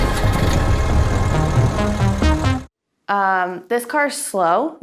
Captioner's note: engine purring; intense music